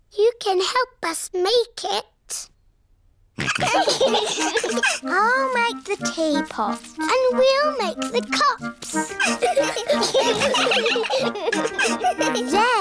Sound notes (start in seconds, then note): 3.4 all laughing; 9.0 all giggling